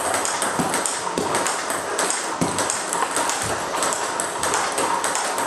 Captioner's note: ball ping pong hitting continues